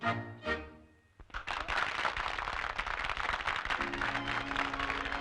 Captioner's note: crowd applauding